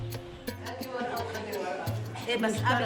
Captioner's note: indistinct conversations; women speaking native language